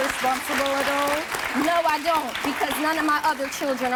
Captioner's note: applause